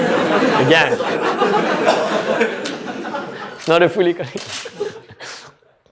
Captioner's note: laughter